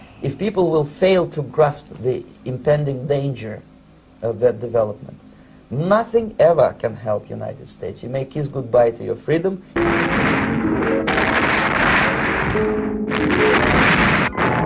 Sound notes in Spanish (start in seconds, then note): 9.8 fuego crepitante